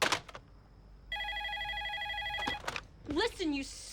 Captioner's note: phone rings